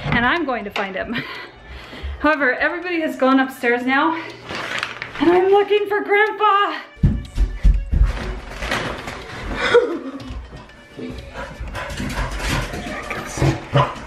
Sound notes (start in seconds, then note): 9.4 laughs